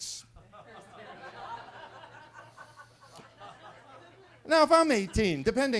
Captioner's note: attendees laughing